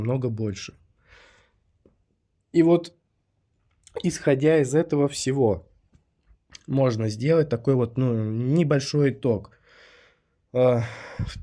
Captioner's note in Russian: вздыхает